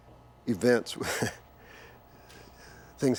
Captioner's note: Bruce chuckles